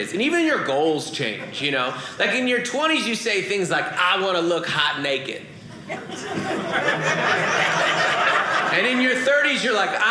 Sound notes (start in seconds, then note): 5.8 audience laughing